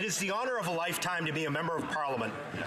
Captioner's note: applause